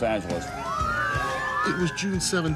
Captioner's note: sirens